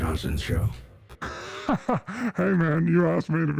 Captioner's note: laughs